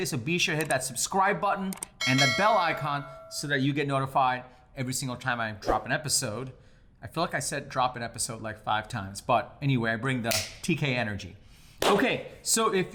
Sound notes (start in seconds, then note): 2.0 bell rings; 10.5 fingers snapping; 11.8 hand clapping